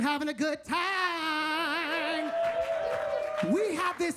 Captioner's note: audience cheers and claps